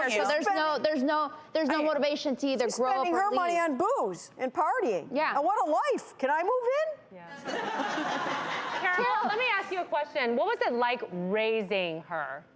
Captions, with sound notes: So, there's no motivation to either grow up or leave. She's spending her money on booze and partying. Yeah. And what a life. Can I move in? Yeah. (audience laughing) Carol, let me ask you a question. What was it like raising her?